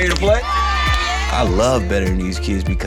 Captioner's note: cheering